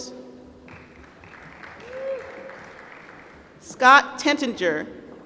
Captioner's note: applause